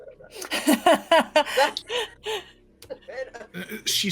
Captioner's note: laughing